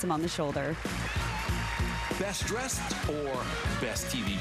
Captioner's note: applause